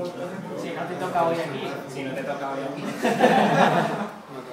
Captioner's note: laugh